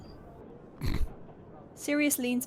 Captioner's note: Sirius snorts